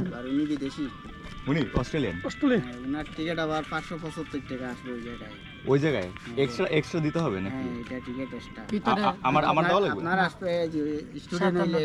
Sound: speaking local language

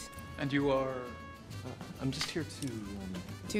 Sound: none

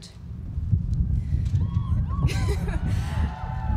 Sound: cheering

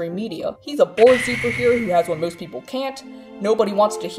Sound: laser sound effect

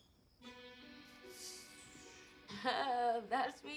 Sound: Luke exhales sharply; chuckles awkwardly

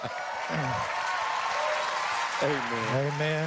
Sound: audience cheering

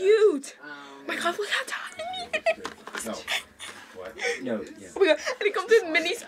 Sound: laughs

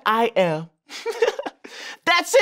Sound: man giggles

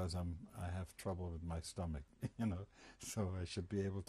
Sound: laughs

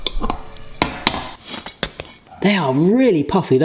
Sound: metal clanging

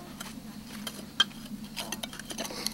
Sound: metal scraping

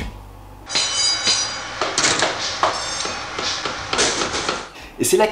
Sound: construction sound

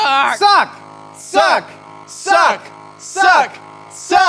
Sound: chanting in Unison

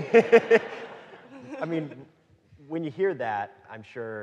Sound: audience laughing

